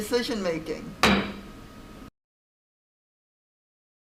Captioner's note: gavel bangs